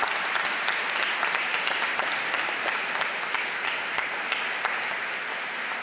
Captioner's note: applause